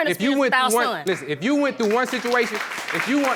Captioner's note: applause